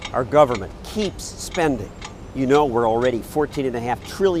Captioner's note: clock ticking